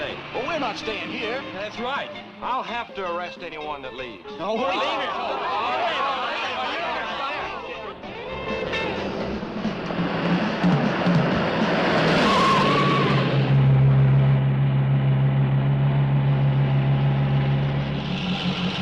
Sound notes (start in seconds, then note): 4.5 teens clamoring; 12.3 tires screeching